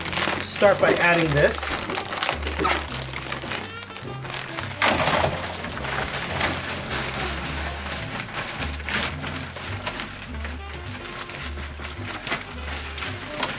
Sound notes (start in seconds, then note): 2.2 bag crinkling; 5.1 sound of Reptisoil pouring; 11.0 jazzy music